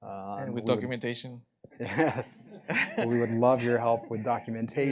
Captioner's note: chuckle